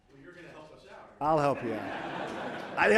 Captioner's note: laughter